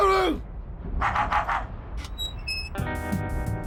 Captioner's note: robotic barking